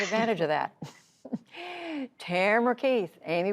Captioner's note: laughter